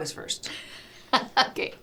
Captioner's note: laughing